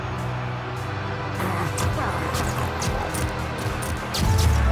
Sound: shuttering, grunting

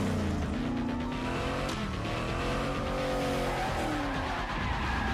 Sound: sirens sound; tires screech

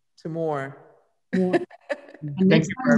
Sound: laughs

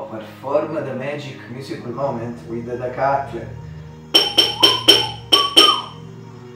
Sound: whistle

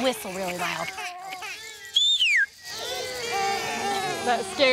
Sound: whistles

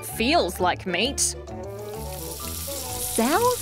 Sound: sizzling

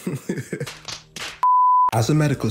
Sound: laughs

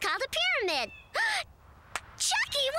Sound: gasps

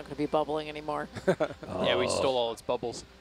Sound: laughs

